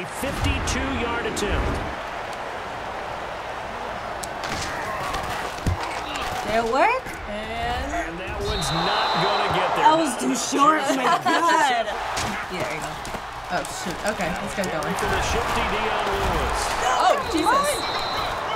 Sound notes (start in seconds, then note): 10.5 laughs